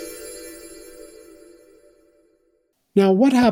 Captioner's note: chimes